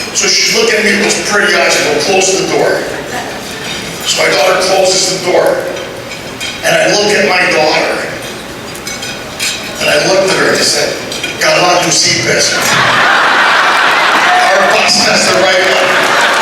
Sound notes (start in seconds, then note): 12.5 laughter